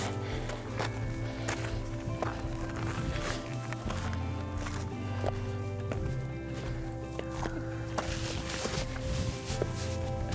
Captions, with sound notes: (gentle music continues) (feet stepping) Made it to the top of South Turner.